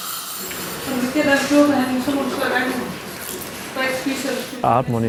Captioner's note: woman speaking in foreign language